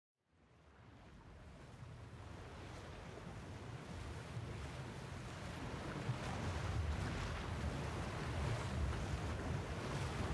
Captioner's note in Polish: sea ambient